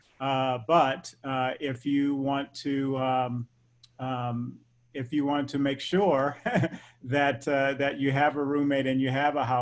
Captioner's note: laugh